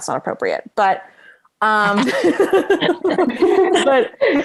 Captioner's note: laughing